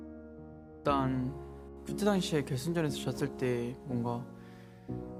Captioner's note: Keria speaking Korean